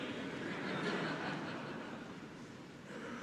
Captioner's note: laughter